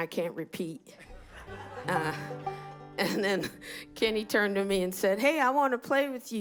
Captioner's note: laughter